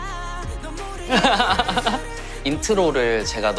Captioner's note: hahaha